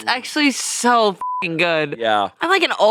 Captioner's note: beep